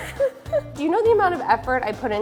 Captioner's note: both laugh